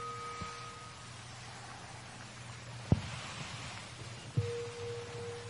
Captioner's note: water falling